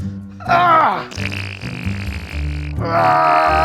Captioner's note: makes fart noise; groans